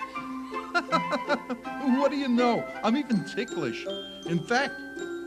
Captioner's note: laughs